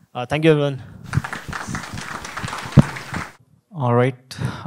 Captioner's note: audience applauding